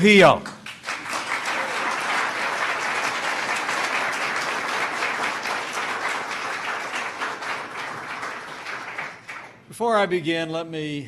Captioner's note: applause